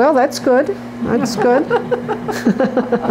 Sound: laughter

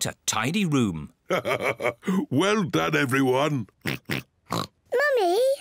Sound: laughs; oinks

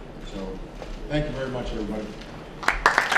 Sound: applause

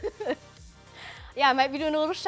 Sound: laughing

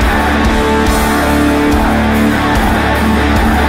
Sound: crowd

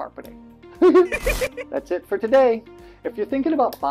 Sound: laughing

